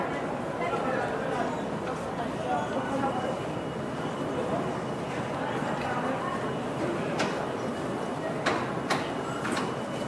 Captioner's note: occasional knocking noises, distant voices, distant traffic sounds